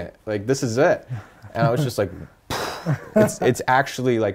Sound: imitates gunshot

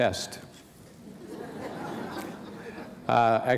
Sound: laughter

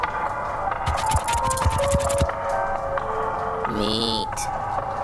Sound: scorpion scurries

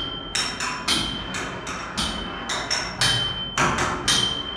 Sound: clanking

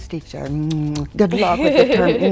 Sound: lips smacking

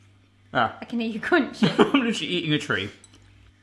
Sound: laughs

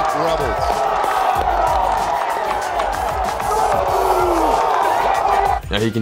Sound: crowd

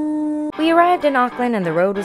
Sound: voiceover

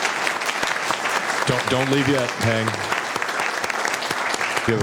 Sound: applause

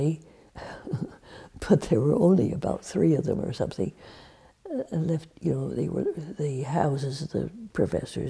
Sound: laughs

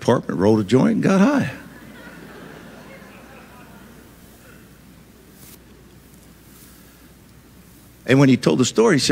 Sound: audience laughs

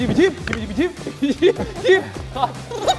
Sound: kekeke

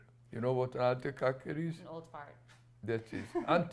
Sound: non-english

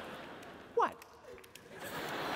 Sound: laughter

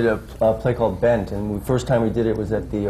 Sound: none

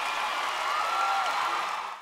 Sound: applause

